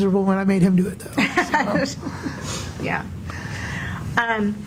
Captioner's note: laughs